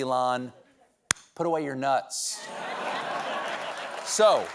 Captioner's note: applause; laughter